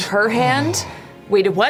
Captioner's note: gasps